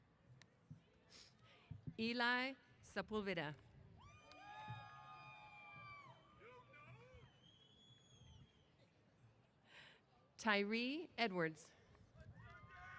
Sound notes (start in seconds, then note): 4.0 cheers; 11.9 applause & Cheers